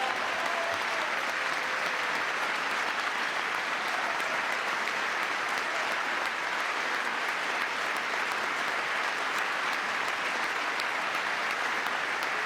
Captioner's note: cheering